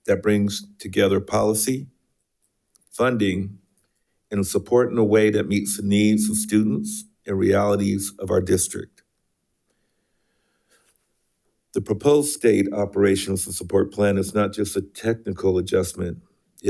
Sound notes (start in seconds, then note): none